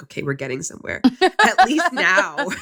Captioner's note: laughs